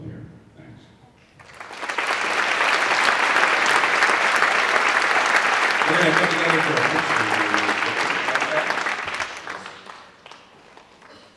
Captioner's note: applause